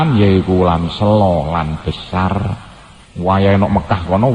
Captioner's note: Javanese